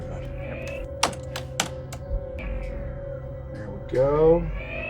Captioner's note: keboard keys clacking